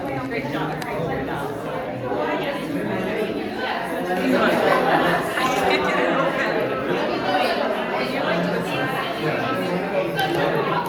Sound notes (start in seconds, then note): 2.5 audience chatting